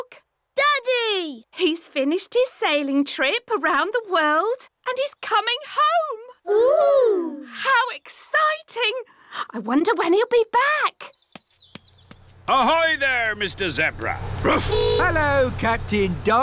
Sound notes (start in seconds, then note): 13.8 barks